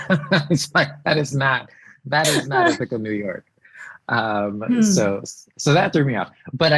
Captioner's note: laughs